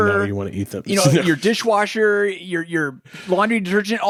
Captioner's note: laughs